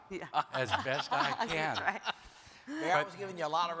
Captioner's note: panelists laugh